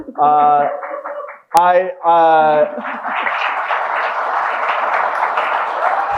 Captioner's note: audience applauding and cheering